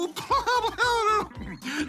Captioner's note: laughs